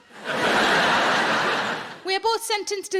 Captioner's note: audience laughing